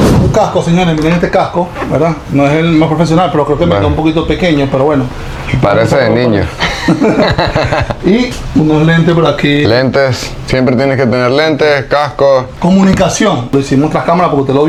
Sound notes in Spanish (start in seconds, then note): 6.5 risas